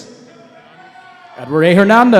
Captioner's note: cheering